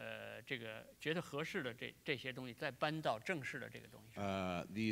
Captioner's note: speaking in Chinese